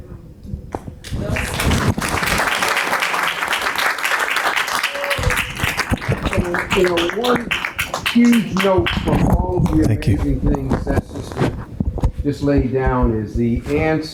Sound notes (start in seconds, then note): 1.0 audience applauding